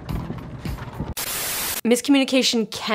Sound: static crackling

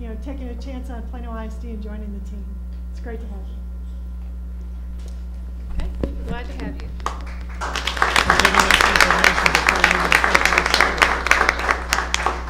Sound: applause

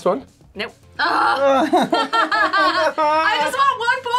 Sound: laughs; whimpers

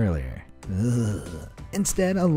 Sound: narrator groans

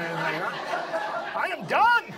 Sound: audience laughs

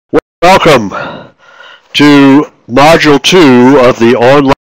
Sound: voiceover

